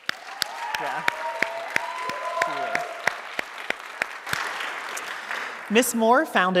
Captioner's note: audience cheering and applauding